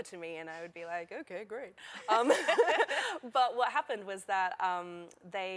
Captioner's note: laughter